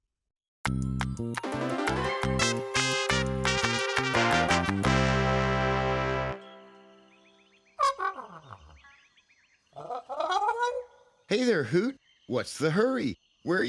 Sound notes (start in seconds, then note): 0.6 upbeat music; 7.8 hooting